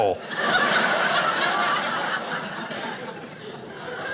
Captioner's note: audience laughing